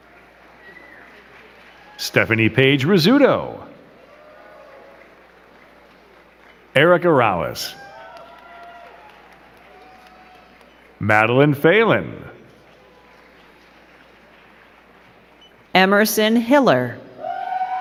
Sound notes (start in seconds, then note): 1.1 crowd clapping; 4.7 crowd clapping; 9.0 crowd cheering and clapping; 12.9 crowd clapping; 17.1 crowd cheering and clapping